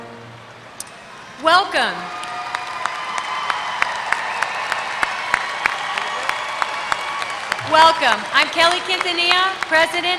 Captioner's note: applause